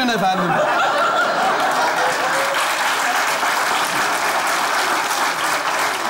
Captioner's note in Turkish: Kahkaha ve alkış sesler